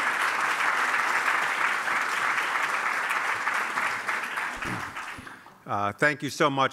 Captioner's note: applause